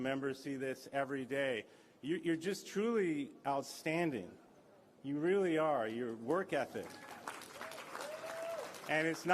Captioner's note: applause